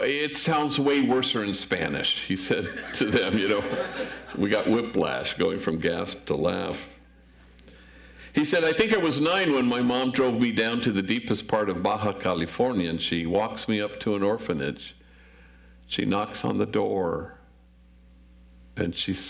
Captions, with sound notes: "It sounds way worser in Spanish," he said to them. (audience laughs) We got whiplash going from gasp to laugh. He said, "I think I was nine when my mom drove me down "to the deepest part of Baja California, "and she walks me up to an orphanage. "She knocks on the door and she says,